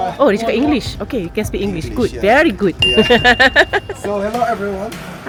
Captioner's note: laugh